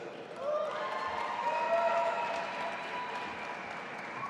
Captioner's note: audience applauding